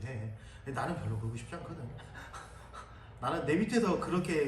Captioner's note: instructor laughs